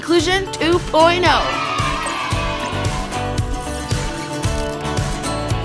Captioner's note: children cheering